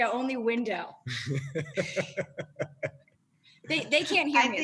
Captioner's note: laughter